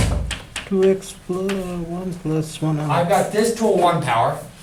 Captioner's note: voiceover